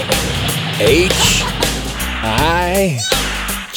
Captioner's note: laughing; giggling